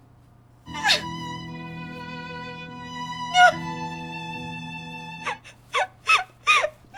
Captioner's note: Esther sobs